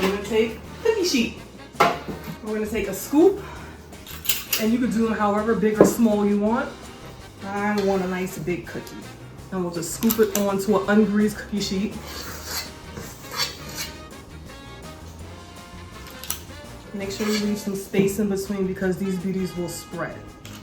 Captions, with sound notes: we're gonna take a cookie sheet, and we're gonna take a scoop, (scooper clicks) and you can do 'em however big or small you want. I want a nice, big cookie. And we'll just scoop it on to an ungreased cookie sheet. (scooper scraping) Make sure you leave some space in between because these beauties will spread.